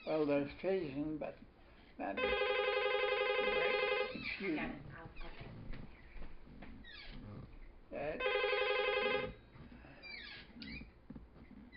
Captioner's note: phone rings